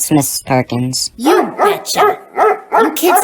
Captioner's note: Tiger barking